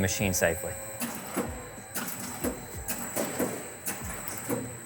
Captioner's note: machine clanking